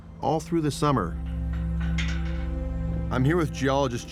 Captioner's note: metal rattling